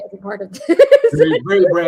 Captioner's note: laughs